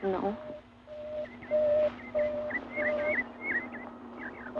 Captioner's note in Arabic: صوت إنذار